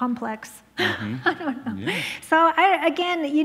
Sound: laughs

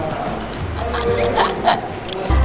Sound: MARIS laughs

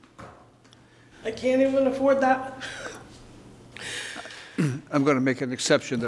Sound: sobs

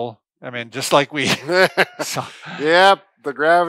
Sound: chuckles

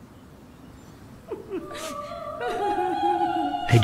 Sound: unusual zombie crying sounds

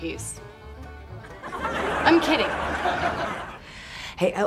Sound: laughter

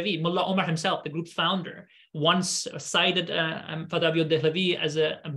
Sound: speaking arabic; speaking arabic

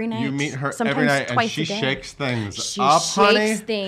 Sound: laughs

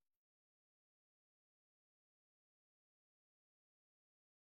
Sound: silence

